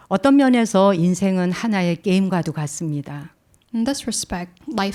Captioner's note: speaking in Korean